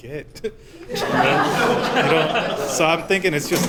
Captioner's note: laughter